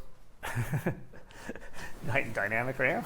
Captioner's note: laughs